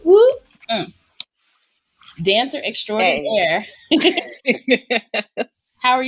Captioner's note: laughter